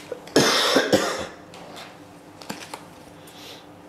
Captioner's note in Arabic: سعال